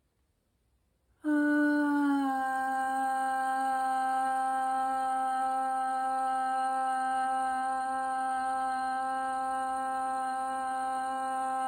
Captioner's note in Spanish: suspiro y tono